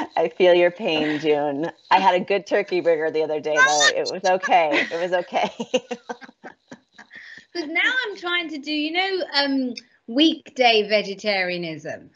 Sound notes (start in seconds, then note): 5.3 all laughing